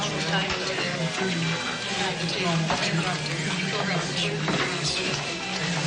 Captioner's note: indistinct conversation